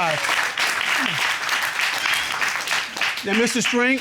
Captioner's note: audience applaud